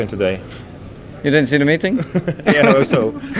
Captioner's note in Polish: śmiech